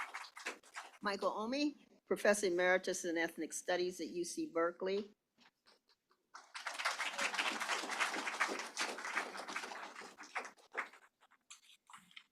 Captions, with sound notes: Michael Omi, Professor Emeritus in Ethnic Studies at UC Berkeley. [APPLAUSE]